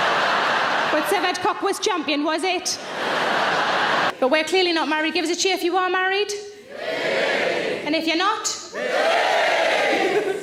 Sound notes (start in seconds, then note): 2.7 audience laughing; 7.0 audience cheering; 9.9 laughing